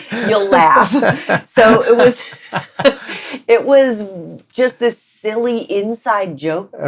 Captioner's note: laughter